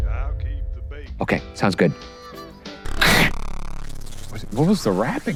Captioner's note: male voice through phone; breaking sound